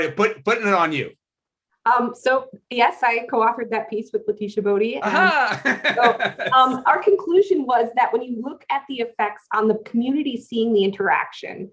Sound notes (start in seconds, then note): 5.0 laughter